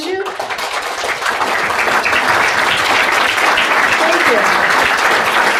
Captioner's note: audience applauding